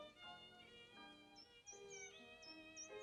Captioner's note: birds chirping